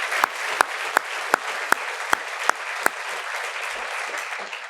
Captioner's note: applause